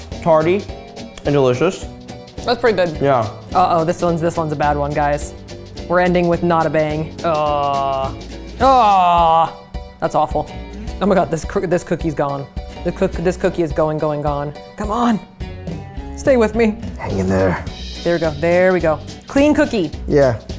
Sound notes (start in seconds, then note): 8.7 groaning